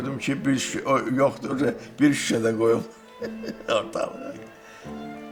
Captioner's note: laughs